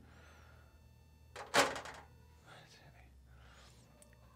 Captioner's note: beeping